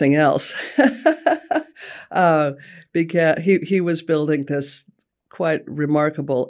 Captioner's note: laughing